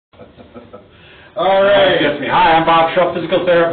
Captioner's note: laughs